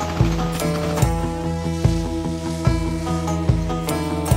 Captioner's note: shooting sounds; drone engine sound